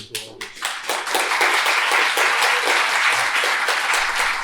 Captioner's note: applause